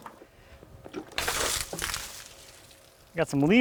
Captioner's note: water sloshing